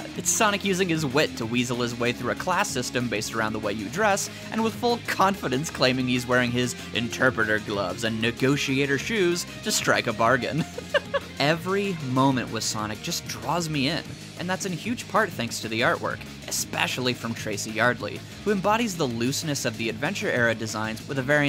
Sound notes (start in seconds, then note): 10.5 chuckle